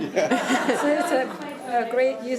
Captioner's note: audience laughing